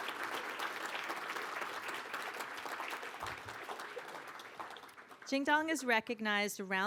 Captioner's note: applause